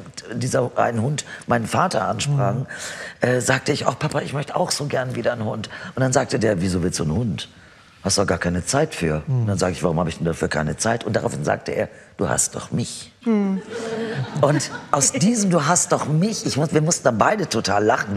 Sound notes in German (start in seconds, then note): 13.4 Lachen